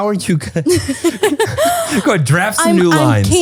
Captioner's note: both laughing